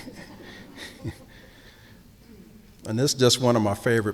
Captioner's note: chuckling